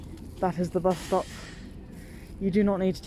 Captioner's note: bus noise